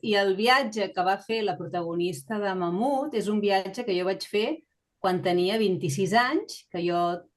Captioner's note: continues speaking in Catalan